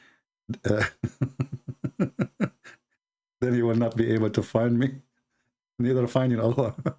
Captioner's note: Ketawa